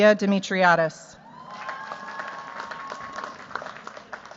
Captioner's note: cheers, applause